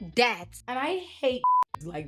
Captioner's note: beep